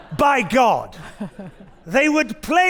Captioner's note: audience laughing